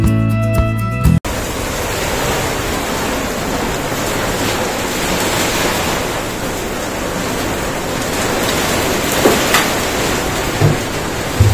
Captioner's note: rain sound